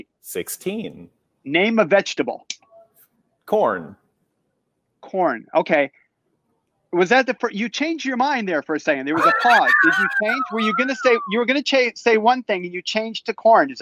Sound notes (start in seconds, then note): 9.1 laughs